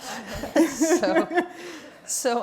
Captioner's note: all laughing